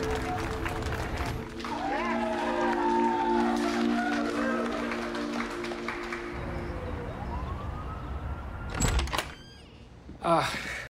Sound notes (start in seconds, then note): 1.6 cheering and applause on TV; 5.7 sirens wailing in distance; 10.2 sighs